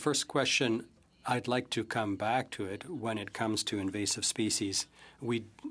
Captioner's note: speaking French